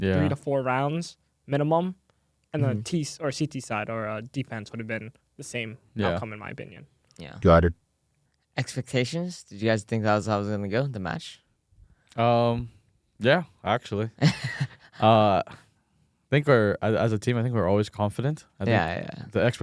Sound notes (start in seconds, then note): 14.2 laughs